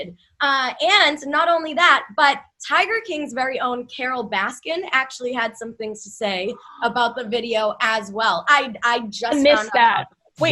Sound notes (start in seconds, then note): 8.0 gasps